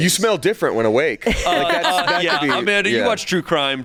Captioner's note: laughs